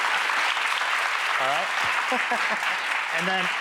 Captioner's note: audience clapping; laughing